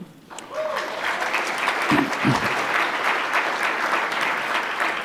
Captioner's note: applause